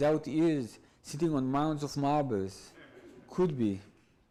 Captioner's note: audience laughs